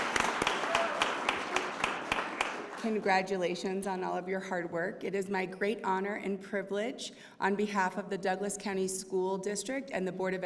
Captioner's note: cheers and applause